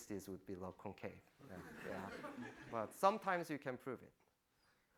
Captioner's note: laughing